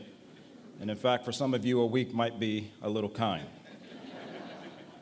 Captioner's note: laughter